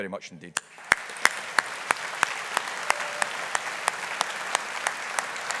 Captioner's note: audience applauding